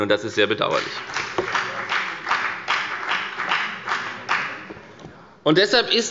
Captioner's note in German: Beifall bei der FDP